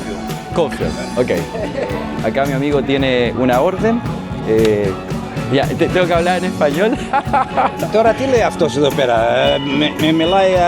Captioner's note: He speaks in Greek